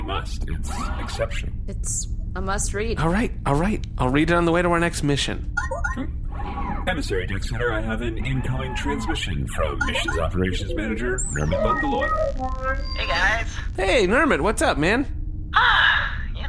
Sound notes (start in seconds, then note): 6.8 incoming-transmission noise